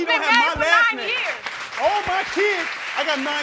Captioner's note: crowd applauds